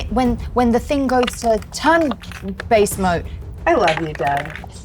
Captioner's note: dice rattling